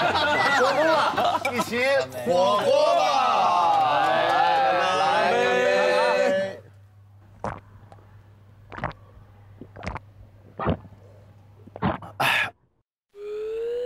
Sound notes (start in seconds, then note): 9.5 glug